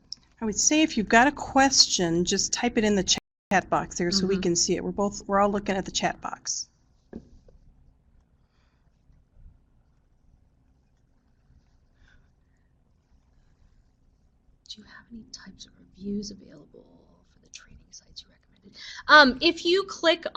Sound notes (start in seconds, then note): 7.2 no sound - waiting for questions